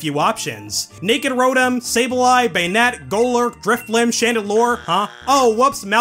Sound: bzzt

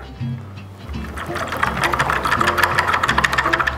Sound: whisking

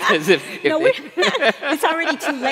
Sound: laughing

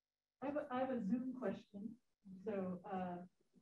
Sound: woman's Voice

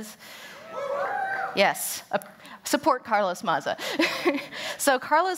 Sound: cheers

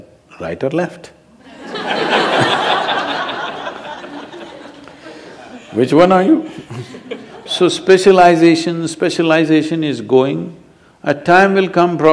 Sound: laughter

